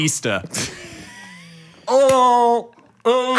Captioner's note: Dan laughing